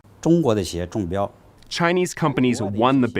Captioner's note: speaking foreign language